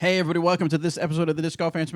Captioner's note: male Voice